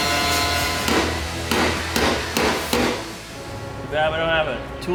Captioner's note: hammer banging